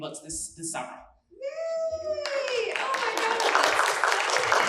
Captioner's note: applause